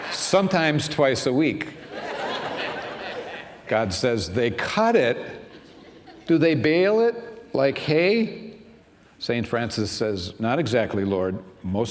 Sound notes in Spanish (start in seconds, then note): 0.0 risas; 1.8 risas